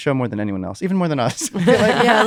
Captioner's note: laughter